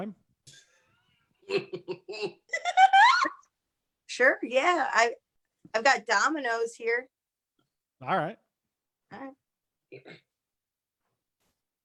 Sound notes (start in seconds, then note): 1.5 laughter